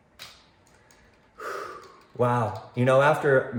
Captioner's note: sighing